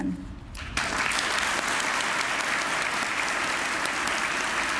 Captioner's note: applause